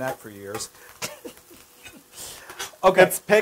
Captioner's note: laugh